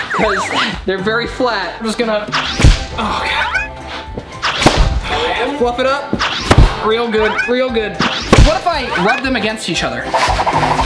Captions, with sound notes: because they're very flat. I'm just gonna (mat slaps). Oh God, fluff it up real good, real good. (mat slaps) What if I rub them against each other?